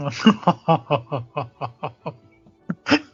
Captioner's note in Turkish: kahkaha